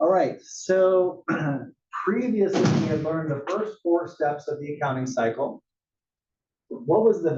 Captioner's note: cough